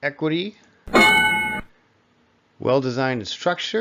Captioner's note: ding